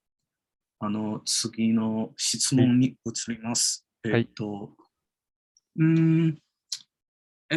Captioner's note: speaks in Japanese